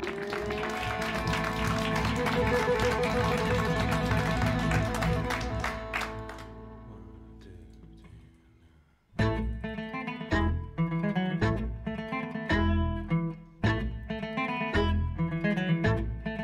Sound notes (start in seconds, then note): 0.0 cheers and applause; 7.1 quietly; 12.1 uptempo folk music with staccato notes on bass and fiddle, melody on guitar